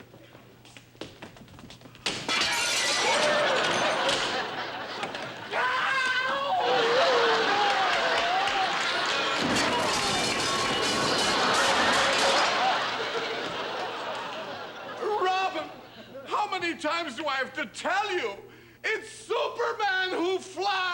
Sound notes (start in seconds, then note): 5.4 shouts; 9.2 loud crash